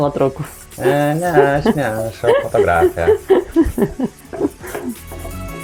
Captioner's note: laughs in Lithuanian